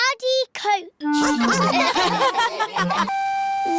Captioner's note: all laugh